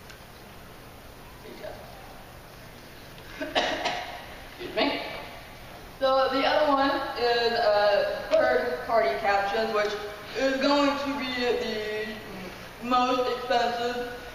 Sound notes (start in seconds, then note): 3.3 coughing